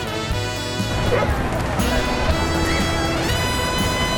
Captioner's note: dogs barking